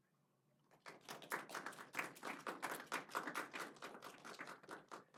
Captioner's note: audience applauds